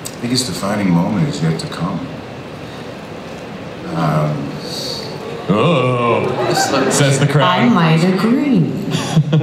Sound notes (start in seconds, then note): 3.8 audience moans; 8.9 Chris laughs